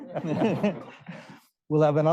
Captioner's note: all laughing